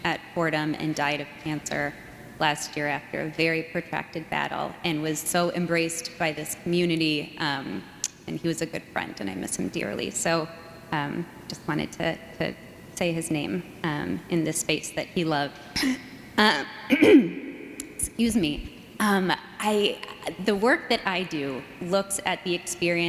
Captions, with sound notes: at Fordham and died of cancer last year after a very protracted battle, and was so embraced by this community, and he was a good friend, and I miss him dearly. So just wanted to to say his name in this space that he loved. (clears throat) Excuse me, the work that I do looks at the experiences